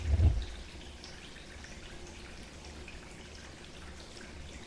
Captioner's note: water dripping